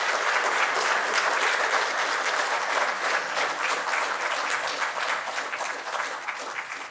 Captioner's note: clapping